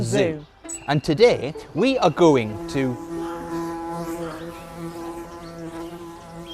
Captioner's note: buzzing